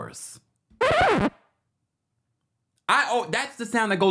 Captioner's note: record scratches